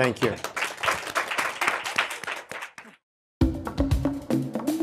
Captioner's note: applause; light music